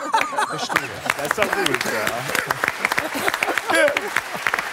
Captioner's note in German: lachen